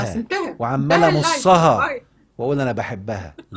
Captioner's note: sarcasm!